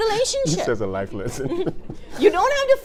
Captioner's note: laughing